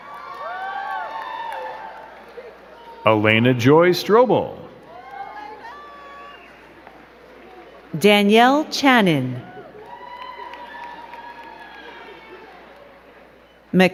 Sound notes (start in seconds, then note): 0.0 crowd cheering and clapping; 5.1 crowd cheering; 9.9 crowd cheering and clapping